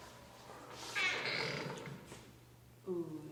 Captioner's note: door creaks